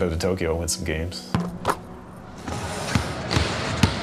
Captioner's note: ball thudding, swishing into net; ball thudding